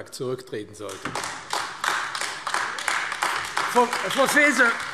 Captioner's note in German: Beifall AfD